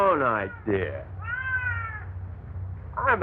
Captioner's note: cats meowing